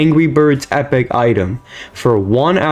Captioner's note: inhales Oxygen